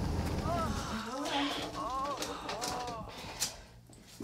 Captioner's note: moaning on TV